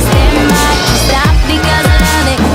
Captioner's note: biff!